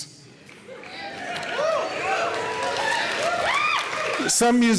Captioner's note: audience cheering